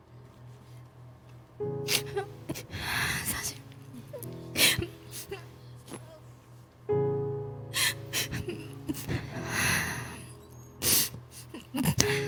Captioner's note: sobbing